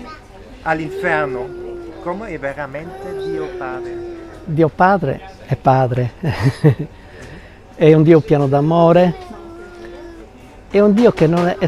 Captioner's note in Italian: risate